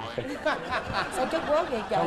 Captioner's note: laughing